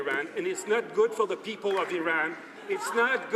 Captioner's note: some Applause